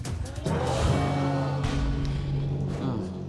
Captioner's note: crowd exclaiming